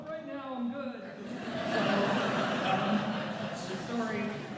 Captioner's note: laughter